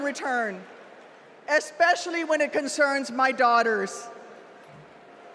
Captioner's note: cheers and applause